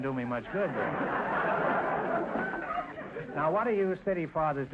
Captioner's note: audience laughter